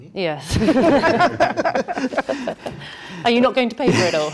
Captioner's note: all laughing